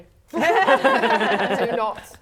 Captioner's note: laughing